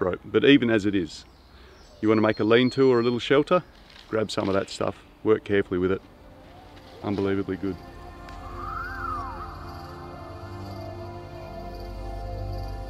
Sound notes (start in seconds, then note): 0.0 birds chirp; 6.1 mellow electronic music; 8.8 birds chirp